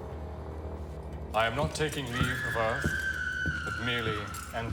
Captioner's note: woman screaming